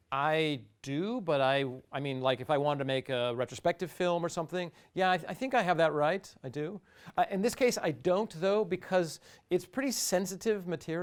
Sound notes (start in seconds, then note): none